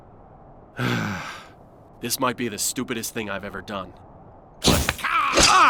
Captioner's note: sighs